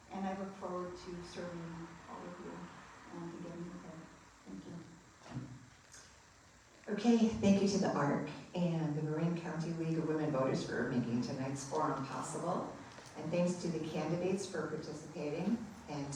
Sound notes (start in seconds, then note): none